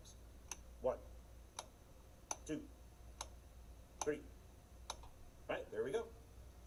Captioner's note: switch clicking